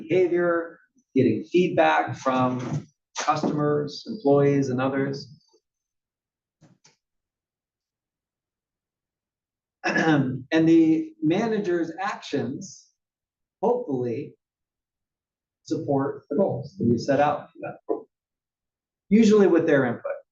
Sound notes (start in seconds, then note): 9.8 cough